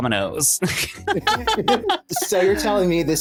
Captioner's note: laughing